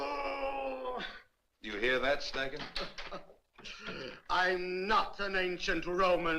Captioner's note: strained; whimpers